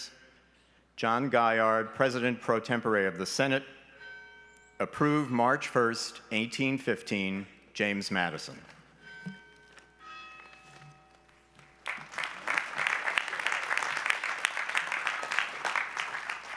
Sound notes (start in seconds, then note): 9.0 bell ringing; 11.6 applause